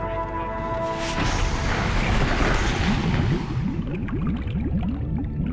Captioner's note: splashing and bubbling